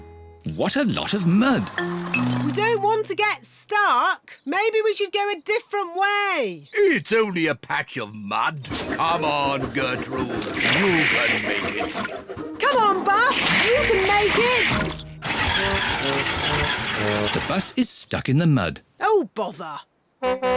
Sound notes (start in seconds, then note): 15.5 engine stalls